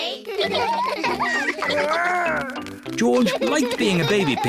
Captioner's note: all laugh